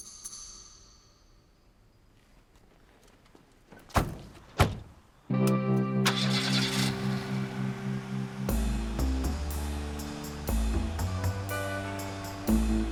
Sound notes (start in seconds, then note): 6.0 engine starts; 8.3 instrumental music